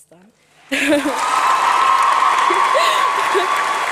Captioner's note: applause